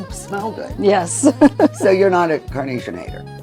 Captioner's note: chuckling